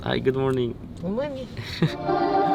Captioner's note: laughs